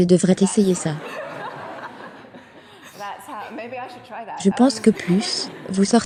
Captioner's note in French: rire en public